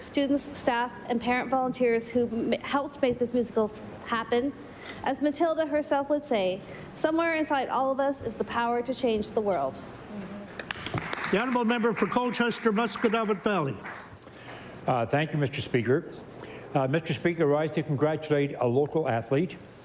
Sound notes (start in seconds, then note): 13.3 applause